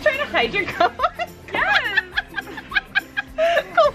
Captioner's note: laughing